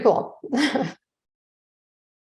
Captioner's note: chuckles